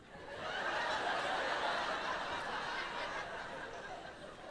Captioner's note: audience laughing